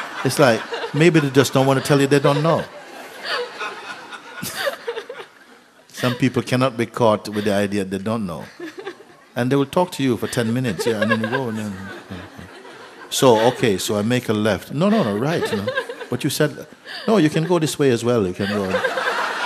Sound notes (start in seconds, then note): 0.0 laughter; 4.1 laughter, questioner laughing; 10.2 laughter